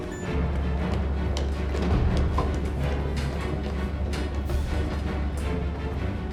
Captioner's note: beeping; alarm